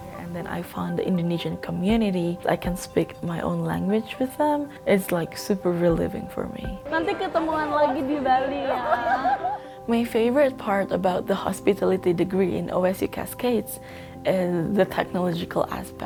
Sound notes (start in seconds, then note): 7.1 speaks foreign language; 9.0 laughing